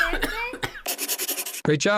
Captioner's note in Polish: Dunkey kaszle; Dźwięk pisania na tablicy